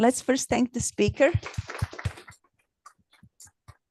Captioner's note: applause